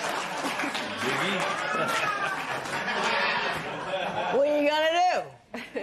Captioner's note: chuckles